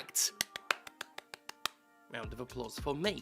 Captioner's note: clapping sounds